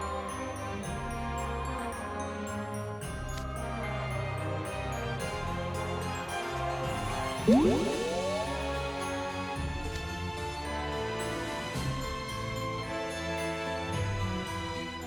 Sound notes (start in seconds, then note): 7.4 whoosh…